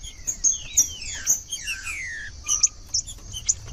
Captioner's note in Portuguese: trinca ferro cantando